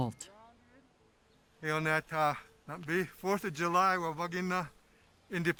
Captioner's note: speaking Tewa